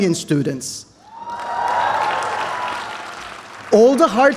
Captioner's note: applause